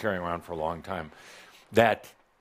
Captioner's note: none